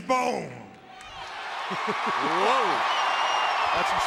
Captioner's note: crowd cheering